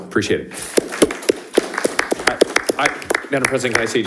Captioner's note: people applauding